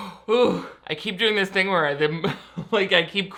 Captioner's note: laughs